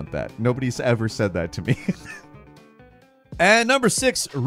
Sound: laughs

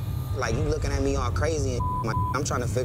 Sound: beep

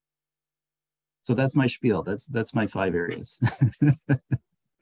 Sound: laughs

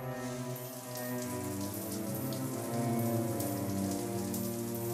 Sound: water splatters

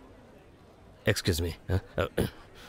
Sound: clears throat

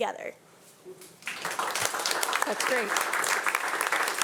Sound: audience applauding

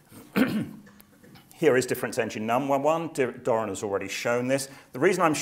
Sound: cough

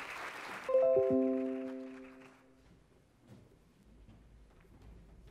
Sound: audience applauds; lively ringing

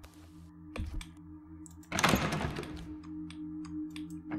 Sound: door Rattles

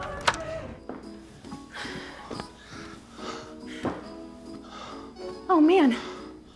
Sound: door slams; gasping

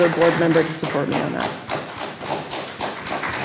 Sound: applause

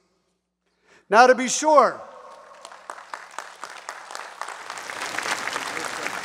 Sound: audience applauds

